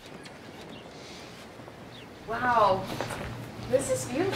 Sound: birds chirping

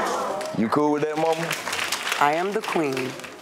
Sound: audience applaud

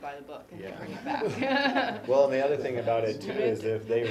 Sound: laugh

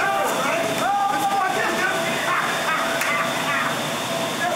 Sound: laughing

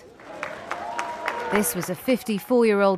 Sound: cheering

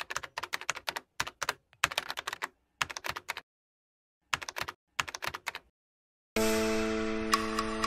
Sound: keyboard clacking

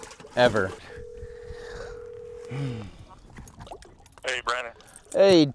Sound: phone rings

